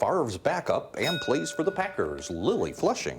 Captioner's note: bell dinging